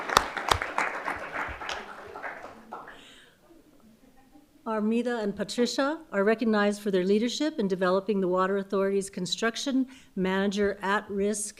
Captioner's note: applause